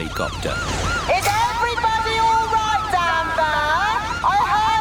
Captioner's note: over megaphone